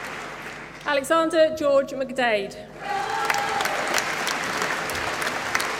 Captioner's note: applause